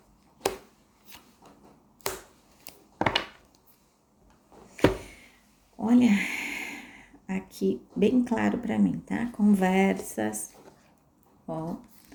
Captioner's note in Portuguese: suspirando